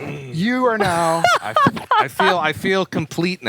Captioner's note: laughs